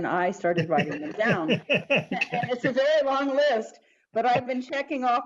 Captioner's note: laughter